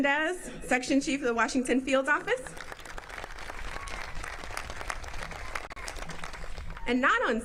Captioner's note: applause